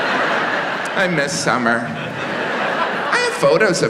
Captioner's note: audience laughs